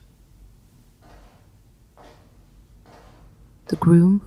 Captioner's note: footsteps approaching